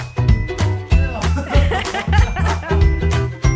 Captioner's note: laughter